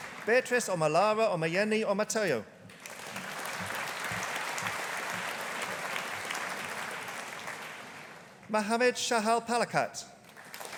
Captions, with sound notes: Beatrice Omolara Omoyeni Omotayo. (AUDIENCE APPLAUDING) Mohammed Shahal Palakkatt.